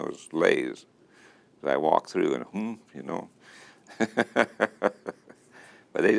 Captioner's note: chuckle